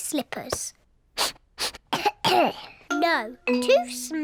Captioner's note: sniffs and coughs